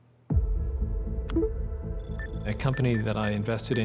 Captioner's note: link alert, beeping